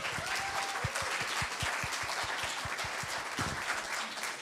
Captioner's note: applause